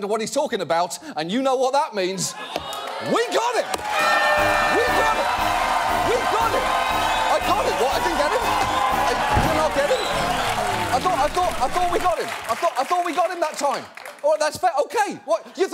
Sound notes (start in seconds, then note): 3.9 air horn blaring